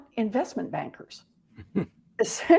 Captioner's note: chuckle